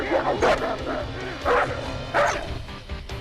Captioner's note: barking